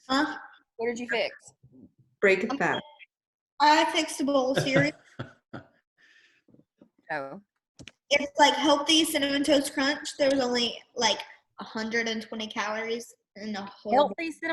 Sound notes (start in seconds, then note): 4.5 laughs